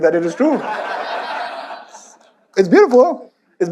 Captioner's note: audience laughs